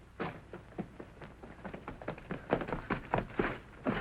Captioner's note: footsteps running